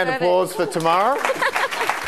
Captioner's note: audience clapping